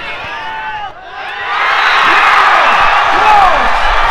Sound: crowd cheering

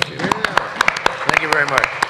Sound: applause

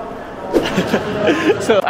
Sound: chuckles

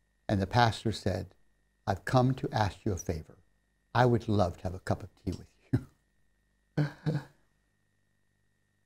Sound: laughs

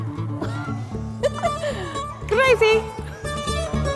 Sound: giggling

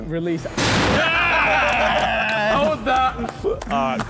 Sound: metal clanking; all cheering

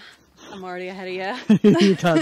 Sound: laughs

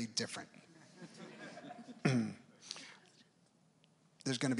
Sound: audience members laugh

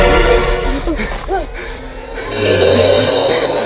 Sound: panting; growling

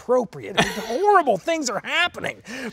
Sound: laughing

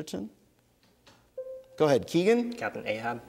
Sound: bell dings

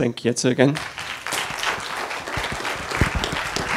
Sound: applause

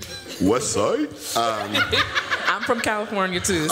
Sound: laughter

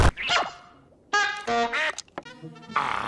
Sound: ploop; honk-beep-quack

